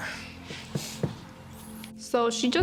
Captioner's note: fingers thudding table